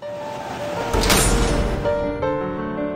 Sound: metal door slams shut

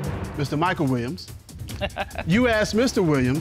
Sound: judge laughs

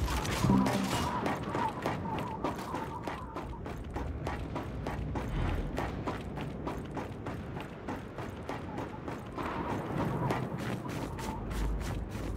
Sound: gunfire

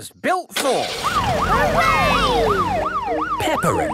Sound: siren

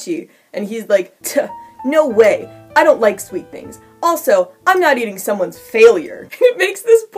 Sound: scoff

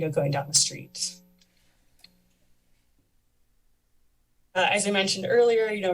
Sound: pause

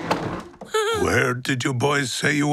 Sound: chuckles nervously

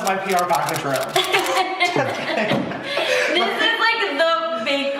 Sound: laughing

